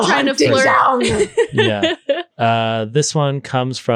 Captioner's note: laughing